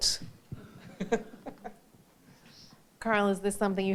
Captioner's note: all chuckling